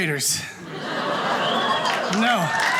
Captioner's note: audience cheers